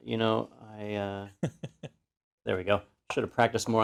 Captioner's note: laugh